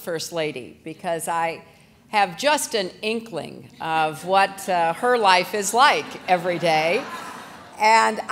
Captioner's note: laughter